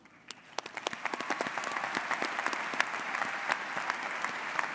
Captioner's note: audience applauds